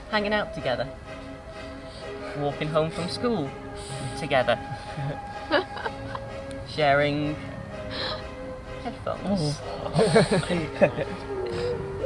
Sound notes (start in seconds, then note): 5.4 laughing; 9.8 laughing